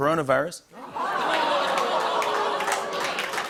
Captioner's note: audience oohs; applause